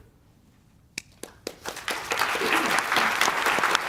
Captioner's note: applause